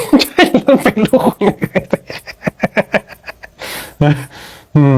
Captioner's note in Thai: เสียงหัวเราะ